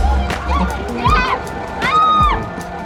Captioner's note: screams